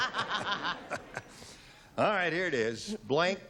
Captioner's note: laughter